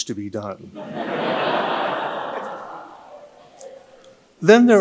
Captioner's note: audience laughing